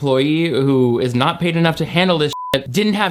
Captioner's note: beep